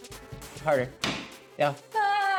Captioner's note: tool pounding